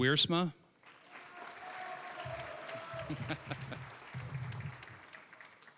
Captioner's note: applause, cheering